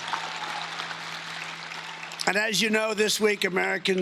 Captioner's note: cheering and Applause